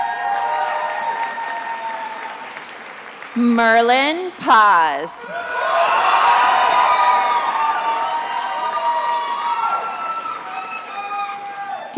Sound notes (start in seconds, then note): 0.0 attendees applauding; 5.2 attendees applauding and cheering